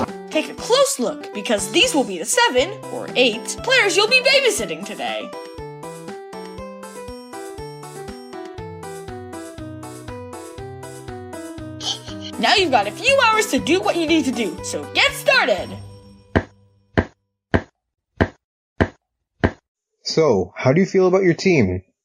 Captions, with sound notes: Take a close look, because these will be the seven, or eight, players you'll be babysitting today! *snickering* Now you've got a few hours to do what you need to do, so get started! *pitter patter of feet* So, how do you feel about your team?